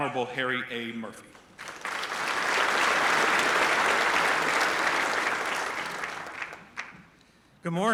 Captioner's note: applause